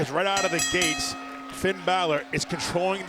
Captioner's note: bell rings